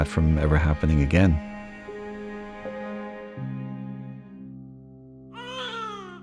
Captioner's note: baby crying